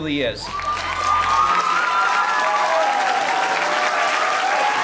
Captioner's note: audience cheering